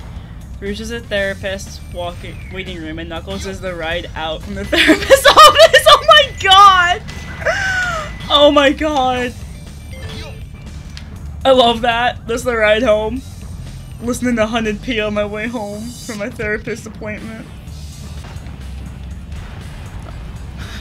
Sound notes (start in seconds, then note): 4.7 laughter